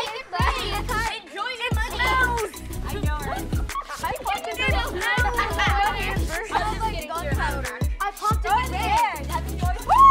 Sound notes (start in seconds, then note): 5.6 all laughing